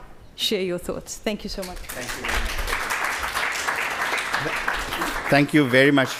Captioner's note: audience applauds